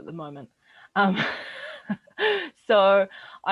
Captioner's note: chuckles softly